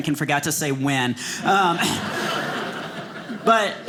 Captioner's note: audience laughing